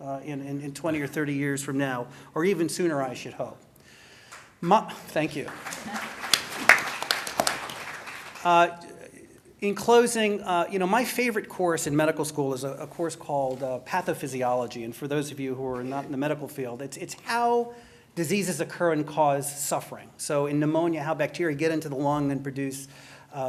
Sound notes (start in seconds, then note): 7.0 applause